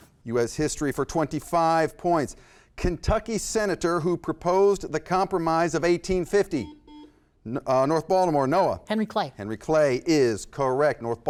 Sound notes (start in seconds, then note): 6.5 buzzer